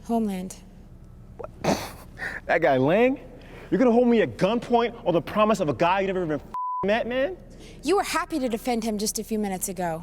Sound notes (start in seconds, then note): 1.8 scoffs